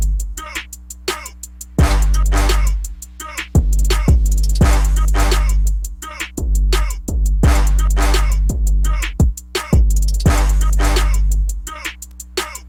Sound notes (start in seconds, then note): none